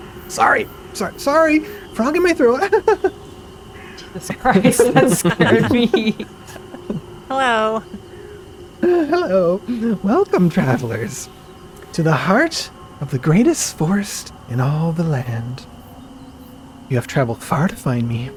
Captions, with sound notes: Sorry! Sorry! Sorry! Frog in my throat (laughs) Jesus Christ, that scared me! Hello! Hello, welcome travelers to the heart of the greatest forest in all the land. You have traveled far to find me.